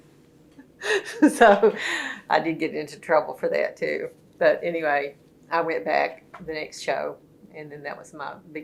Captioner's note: laughs